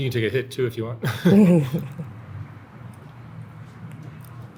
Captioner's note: laughing